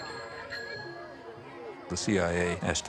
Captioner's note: bicycle bell dings